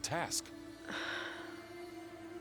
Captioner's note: sigh